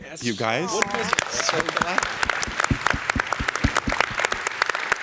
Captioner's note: audience applause